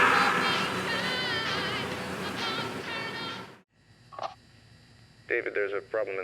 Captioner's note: worker screams; zamboni whirring